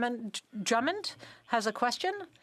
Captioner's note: speaking French